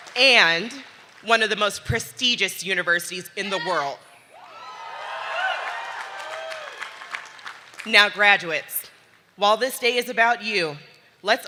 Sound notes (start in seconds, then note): 4.4 audience cheering